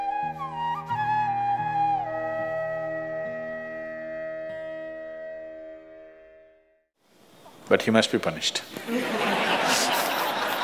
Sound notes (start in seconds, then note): 8.8 laughter